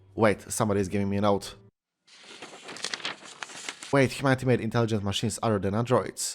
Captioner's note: ruffled paper